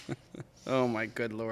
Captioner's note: laughing